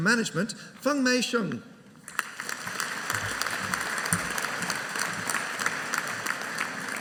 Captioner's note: audience applauding